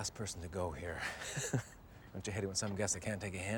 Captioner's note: chuckles